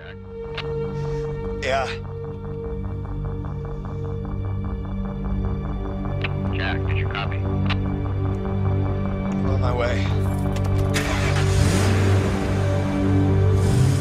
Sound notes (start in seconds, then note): 3.3 ominous instrumental music; 9.9 car revving